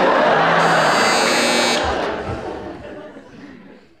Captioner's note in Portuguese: campainha